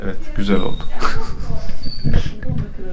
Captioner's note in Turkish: Gülüşmeler